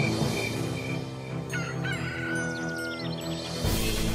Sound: rooster crows

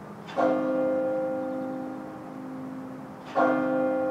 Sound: bell dings

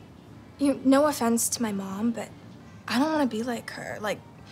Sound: none

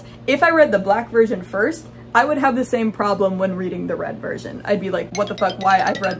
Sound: goofy sound effects

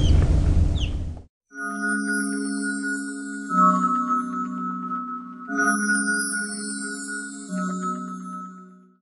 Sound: fairy dust sound effect

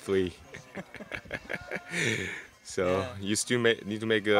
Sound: both Laughing

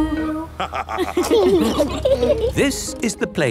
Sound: laughter

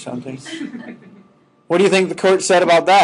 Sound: students laughing

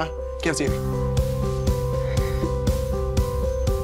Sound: sighs

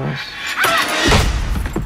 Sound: scream and thud to the head

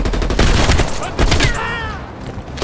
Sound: gunshots

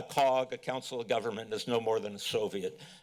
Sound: none

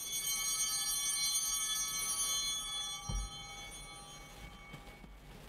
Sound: chimes ringing

